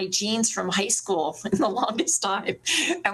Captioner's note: laughs